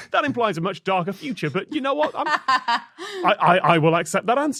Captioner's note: laughs